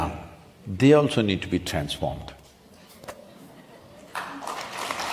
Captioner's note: applause